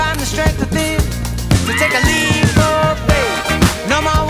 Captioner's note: shrieks